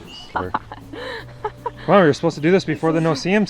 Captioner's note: laughs